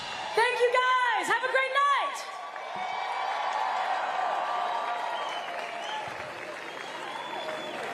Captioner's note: cheers and applause